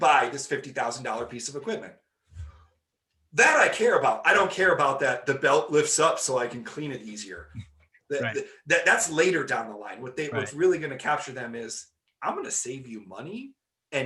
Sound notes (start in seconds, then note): 7.8 laughing